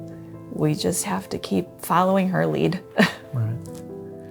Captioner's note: chuckles